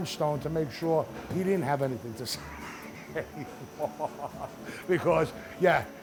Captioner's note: laughs